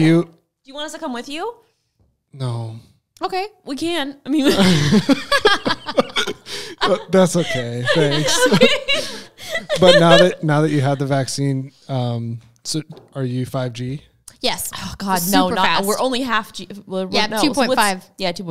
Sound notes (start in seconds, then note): 4.4 group laughing